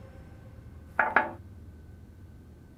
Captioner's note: knocking on the door